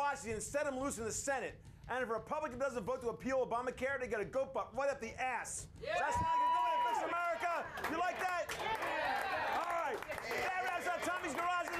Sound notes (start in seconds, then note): 9.2 audience cheering